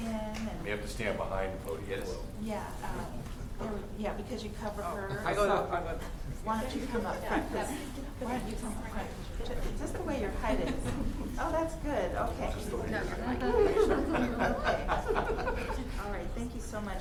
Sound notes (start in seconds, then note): 12.7 chatter